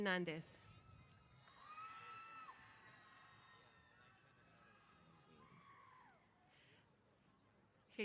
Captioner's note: cheers